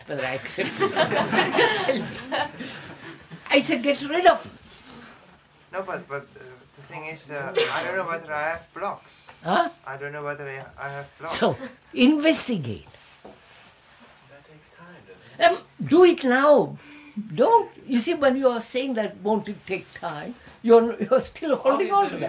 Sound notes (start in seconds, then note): 4.2 laughter